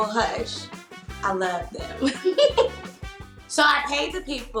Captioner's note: giggles